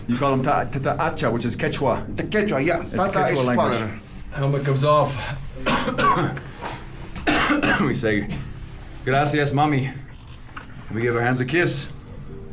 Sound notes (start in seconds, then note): 5.6 coughs